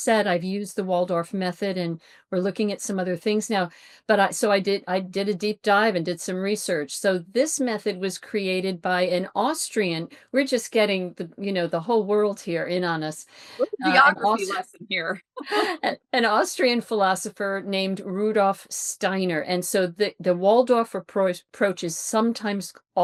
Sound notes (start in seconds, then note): 13.6 chuckles